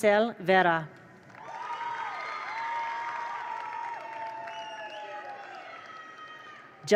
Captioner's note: attendees applaud; attendees cheer